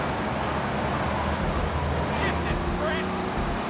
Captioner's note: muffled yelling